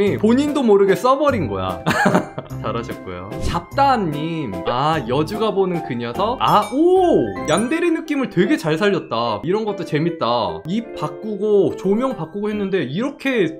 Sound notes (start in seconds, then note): 1.9 laughs